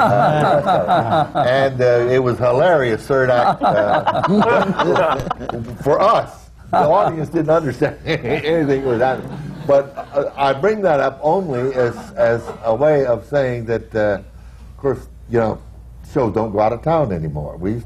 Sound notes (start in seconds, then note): 0.2 laughter